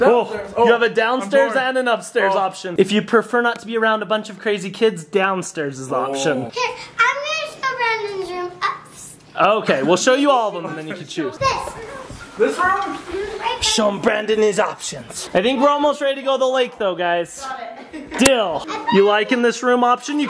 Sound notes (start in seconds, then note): 18.6 laughing